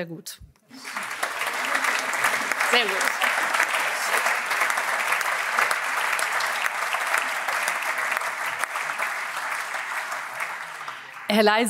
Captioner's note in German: Allgemeiner Beifall